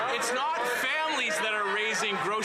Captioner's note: some Applause